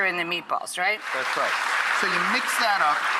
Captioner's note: audience cheers